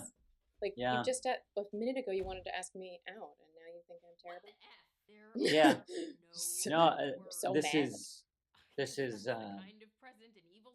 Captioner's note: laughter